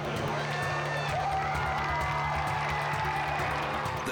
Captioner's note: crowd cheering